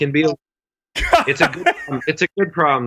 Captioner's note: laughs